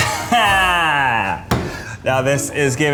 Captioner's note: laughs obnoxiously